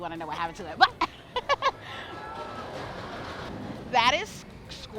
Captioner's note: laughs